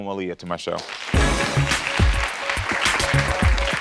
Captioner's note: applause